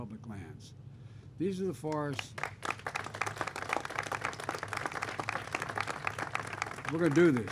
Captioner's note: applause